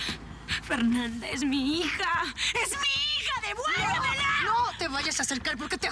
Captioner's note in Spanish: Sollozos